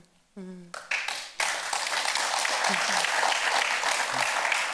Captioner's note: audience applauds